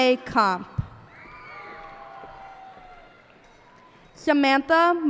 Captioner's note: cheers and applause